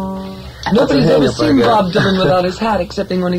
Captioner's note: voiceover